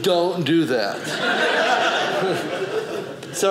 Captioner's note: audience laughing